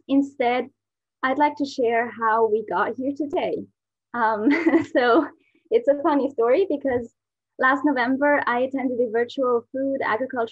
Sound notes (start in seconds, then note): 3.6 laugh